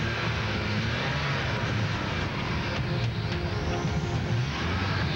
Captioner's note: engine revs; car starts